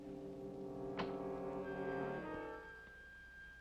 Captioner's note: ominous music; door closes; ominous music